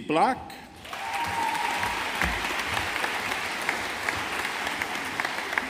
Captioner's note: audience applauding